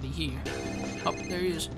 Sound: telephone ringing

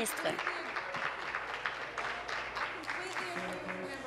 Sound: applause

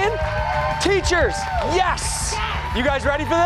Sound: cheers and applause

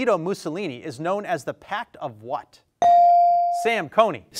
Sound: bell dings

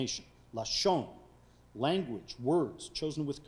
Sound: speaking foreign language

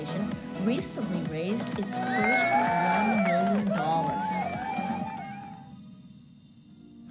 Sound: people cheering

